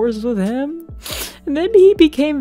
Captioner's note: overdramatic sniffle